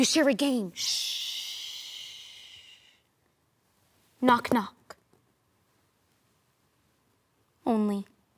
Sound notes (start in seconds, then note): 5.2 silent